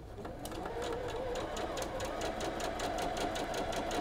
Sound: machine whirs

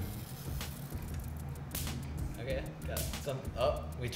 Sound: snapping sound

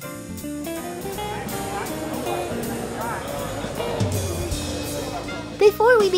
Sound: people talking in distance

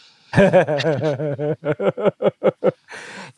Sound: laughing

